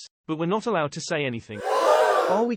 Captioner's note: shriek